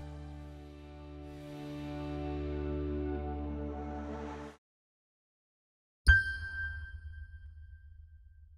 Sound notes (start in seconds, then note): 1.5 music fades; 6.1 high pitched pin drop